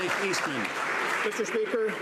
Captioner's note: some Applause